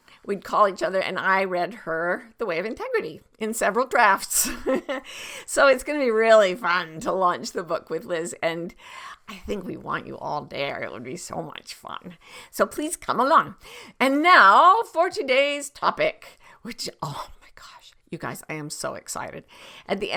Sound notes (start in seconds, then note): 4.4 chuckles